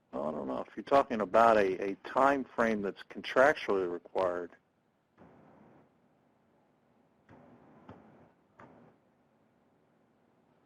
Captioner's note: intermittent Pounding Static